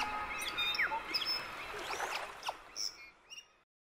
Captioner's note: water flowing; birds chirping